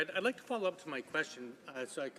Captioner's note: speaking French